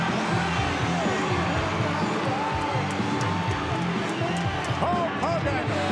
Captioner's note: audience cheering; upbeat music